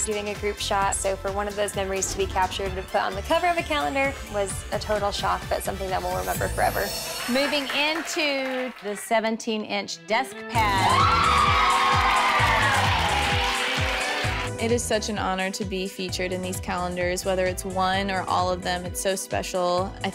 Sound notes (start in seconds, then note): 10.6 crowd exclaims; 10.9 bright music